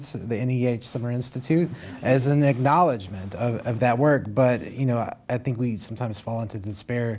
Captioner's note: laughter